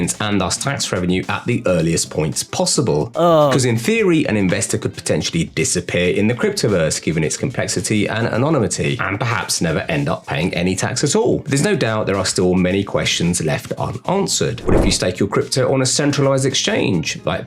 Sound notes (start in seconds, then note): 3.1 man groans